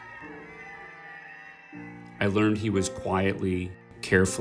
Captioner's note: students cheering